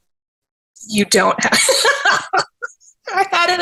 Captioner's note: laughs